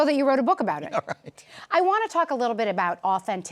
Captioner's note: chuckles